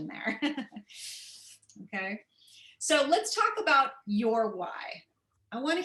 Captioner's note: laughter